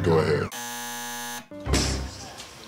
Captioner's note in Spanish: zumbador; Whump!